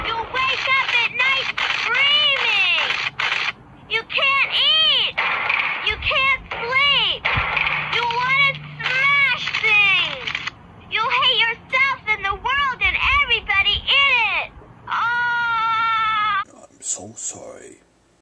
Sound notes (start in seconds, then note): 14.9 crying